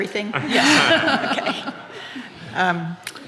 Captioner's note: audience laughing